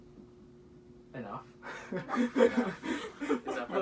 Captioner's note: laughter